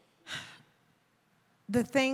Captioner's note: exhales softly